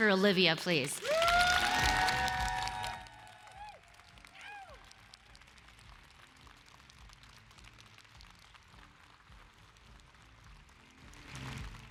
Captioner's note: applause and cheers